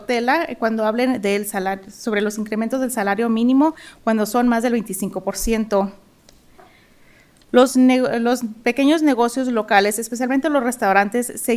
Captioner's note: speaking in spanish